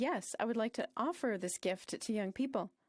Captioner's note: speaking French